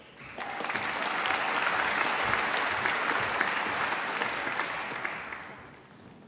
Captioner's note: applause